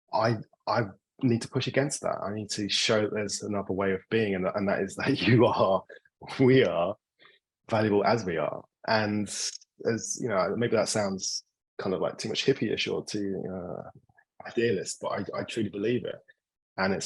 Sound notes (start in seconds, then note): 5.9 laughing